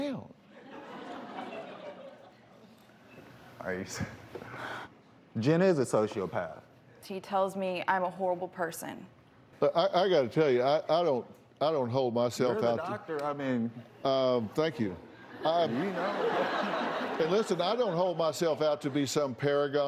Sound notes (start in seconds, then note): 2.9 laughter; 15.2 laughter